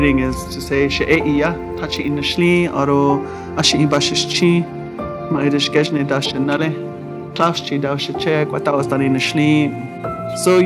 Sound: speaks in native language

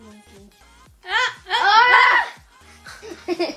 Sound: screams ah ah

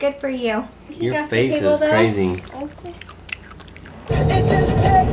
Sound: loud chewing

